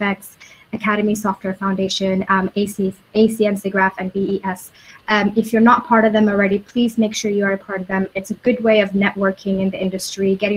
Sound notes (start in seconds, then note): none